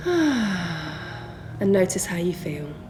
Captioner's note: heavy breathing